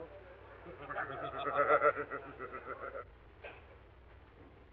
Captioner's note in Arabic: الأعضاء يضحكون